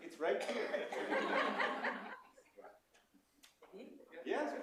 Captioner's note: laughter